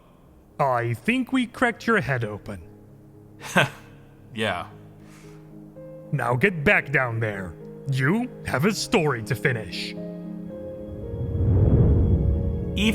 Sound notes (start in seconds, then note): 3.4 chuckles